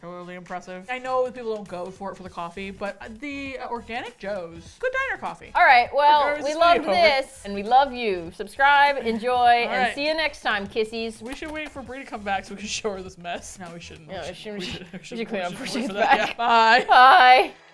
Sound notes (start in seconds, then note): 6.3 dryly; 11.2 smooches; 14.3 laughs